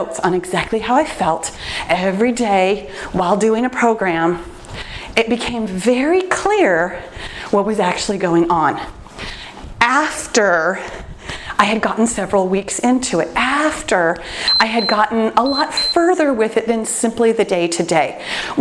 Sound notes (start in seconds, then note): 14.4 timer beeps